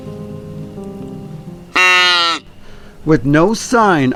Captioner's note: deer calling